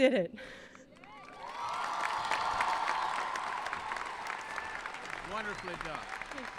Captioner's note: applauding; cheering